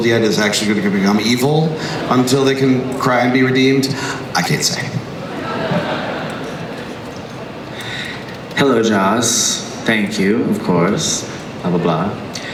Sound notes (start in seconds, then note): 4.2 crowd laughs; 8.7 voiceover